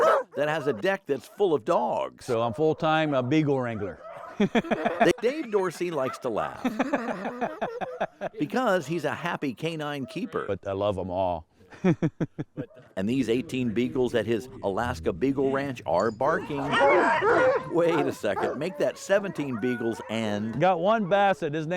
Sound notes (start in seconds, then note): 3.6 laughs; 6.7 laughing